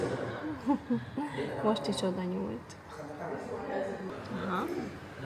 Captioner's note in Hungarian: nevetés